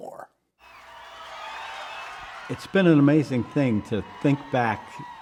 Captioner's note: cheers and applause